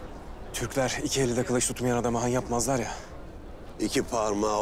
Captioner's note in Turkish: none